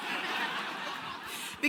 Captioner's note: audience laughing